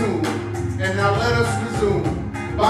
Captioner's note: Arabic